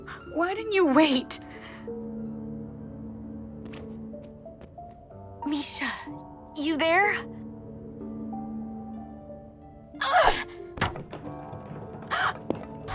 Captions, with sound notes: Why didn’t you wait? Mischa...? You're there? [Jessa groans] [Mischa gasps]